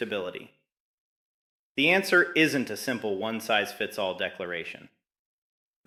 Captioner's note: thoughtful